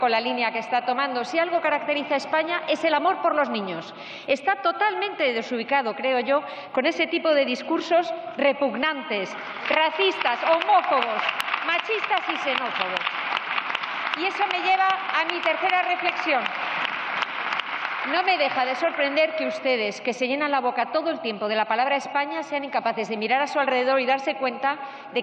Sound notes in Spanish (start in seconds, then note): 13.0 Aplausos